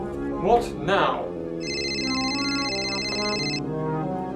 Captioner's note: mobile phone ringing